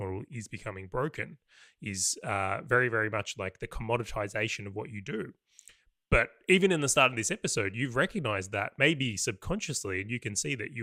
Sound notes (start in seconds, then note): none